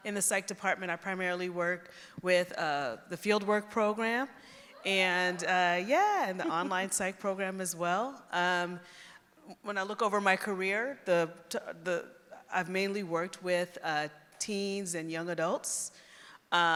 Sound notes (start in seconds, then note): 4.7 cheering